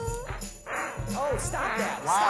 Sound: farting

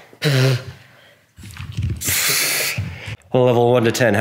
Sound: air whooshing

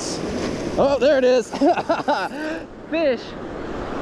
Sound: laughing

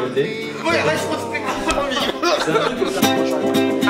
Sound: kof

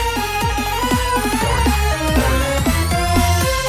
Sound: SFX: "Boing. Boing."

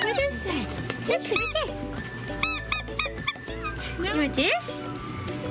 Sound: toy squeaks

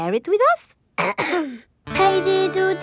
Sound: clears throat

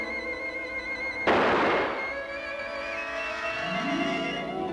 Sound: gun shot

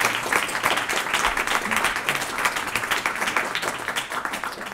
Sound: applause

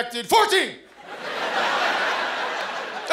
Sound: laughter

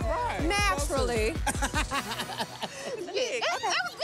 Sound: laughs

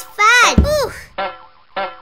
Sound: bump!

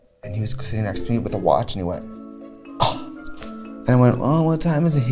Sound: scoffs

